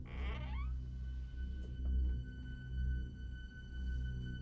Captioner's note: door creaking